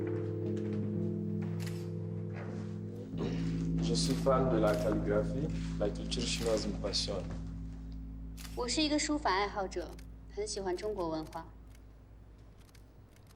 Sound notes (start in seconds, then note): 3.8 French